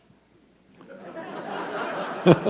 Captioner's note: laughter